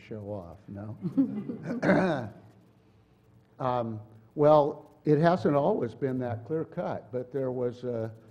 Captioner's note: laugh